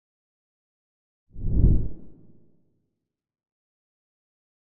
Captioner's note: whoosh